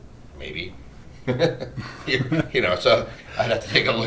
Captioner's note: laughter